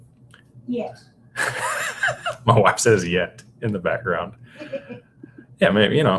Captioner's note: laughter